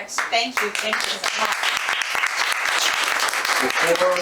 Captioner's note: audience applauding